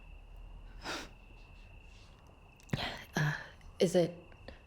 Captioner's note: Rachel scoffs